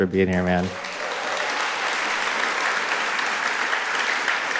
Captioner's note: audience applauding